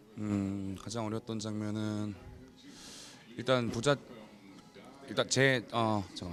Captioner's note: speaks in a foreign language